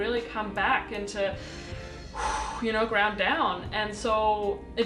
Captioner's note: exhales